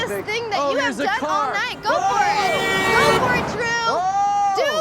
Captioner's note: horn honks